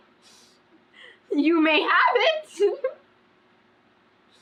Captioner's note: laughs